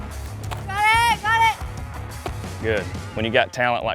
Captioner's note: cheering